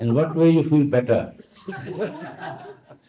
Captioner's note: laughter